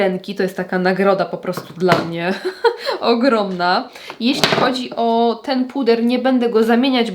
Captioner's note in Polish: śmiech